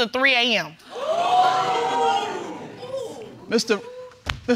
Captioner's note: crowd reacting